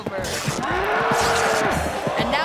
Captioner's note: pants ripping; bull bellowing